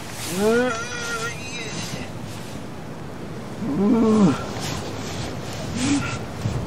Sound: angst-ridden, despaired moaning

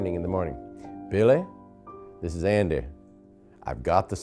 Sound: imitating Andy Griffith

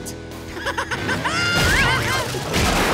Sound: laughs

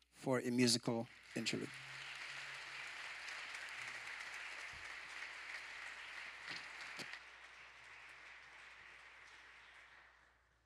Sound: applause

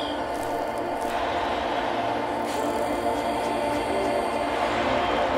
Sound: bike whirring; grass crunching; crowd chanting; sparklers crackling

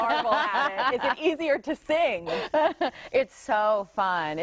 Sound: laughter

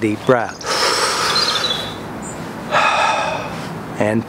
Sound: deep breath

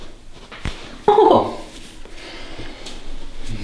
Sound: the girl screams after massage

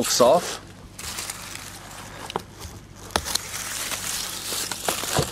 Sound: dry leaves rustling

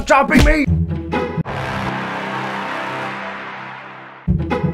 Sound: ominous sound

